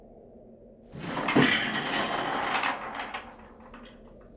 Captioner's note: scattering